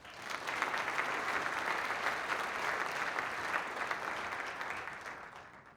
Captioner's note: applause